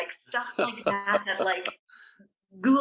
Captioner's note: laughing